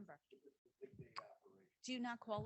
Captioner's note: faintly speaking